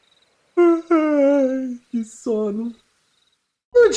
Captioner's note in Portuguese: Bocejo